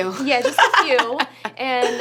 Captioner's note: laughs